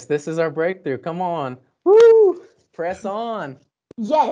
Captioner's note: screams